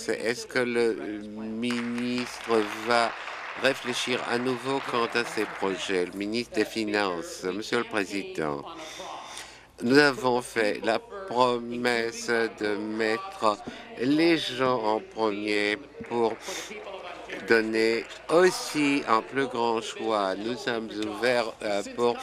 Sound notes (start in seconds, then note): 5.7 applause